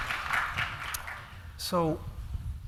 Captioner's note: applause